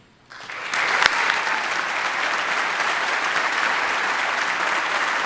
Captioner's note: audience applauding